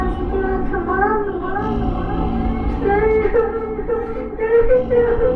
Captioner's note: little girl vocalizing in echoes